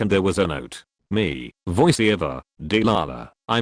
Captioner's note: voiceover